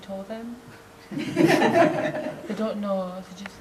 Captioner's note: audience laughs